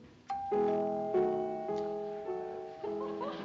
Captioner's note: doorbell